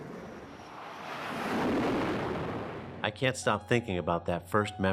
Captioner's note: plane engine roaring